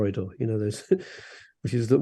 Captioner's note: laughs